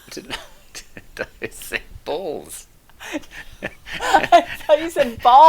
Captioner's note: laughing